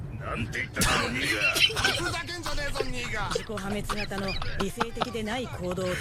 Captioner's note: gun firing; laughing